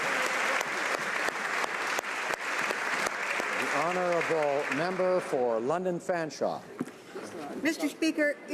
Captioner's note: speaking alternate language; applause